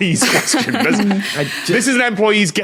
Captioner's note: laughs